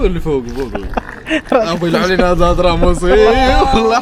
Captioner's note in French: rires